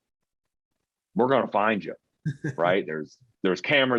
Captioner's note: chuckling